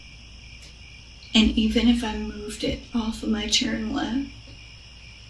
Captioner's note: crickets